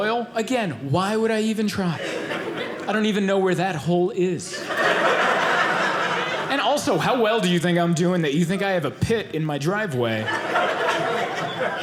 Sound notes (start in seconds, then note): 4.4 audience laughing